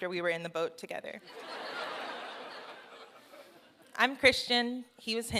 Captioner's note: laughter